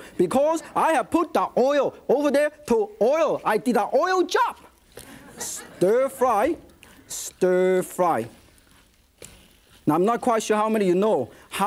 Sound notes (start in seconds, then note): 5.0 audience chuckles